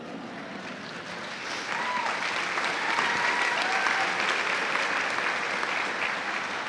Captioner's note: cheers and applause